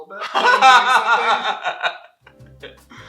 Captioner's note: laughter